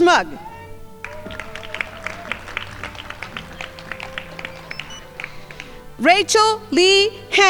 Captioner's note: crowd applauding